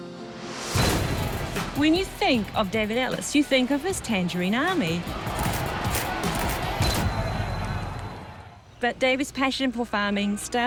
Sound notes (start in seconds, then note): 4.0 spectators shout